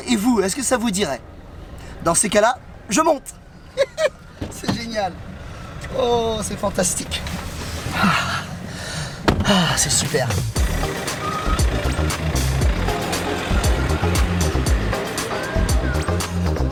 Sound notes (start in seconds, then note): 3.6 laughs; 4.8 speaks in foreign language; 10.9 engine humming; 12.6 rhythmic lounge music